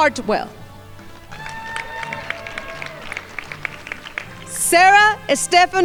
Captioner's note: crowd applauding